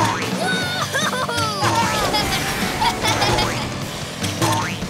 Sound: laughing

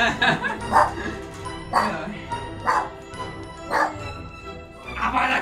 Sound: doggo barks

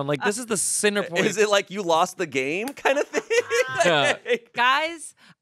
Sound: laughs

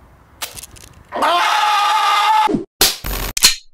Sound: squeals

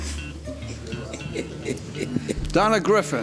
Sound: laughing

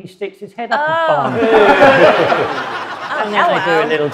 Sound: audience laughs

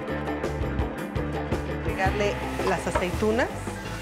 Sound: speaking Spanish

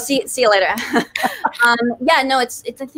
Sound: laughs

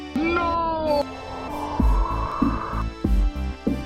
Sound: winds blowing

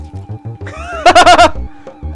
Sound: goofy laughter

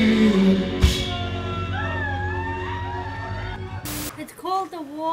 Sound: cheers

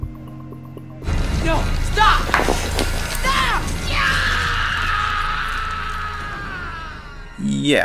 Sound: screaming

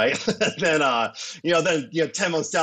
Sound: chuckles

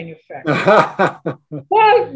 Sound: laugh

